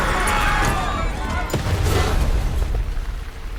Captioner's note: people screaming; explosion blasting